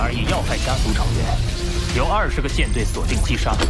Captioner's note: laser cannon recharging